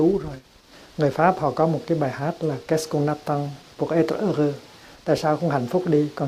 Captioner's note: french language